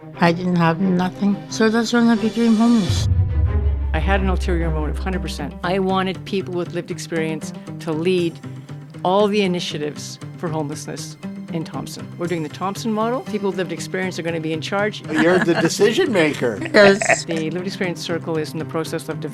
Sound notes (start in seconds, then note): 1.9 dramatic music; 15.1 chuckling